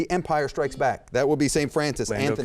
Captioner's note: beep